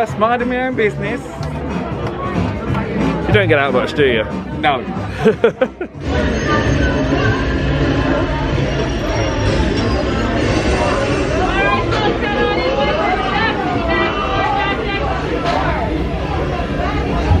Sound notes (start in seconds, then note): 5.1 laughs